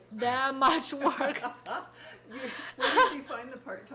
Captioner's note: people laughing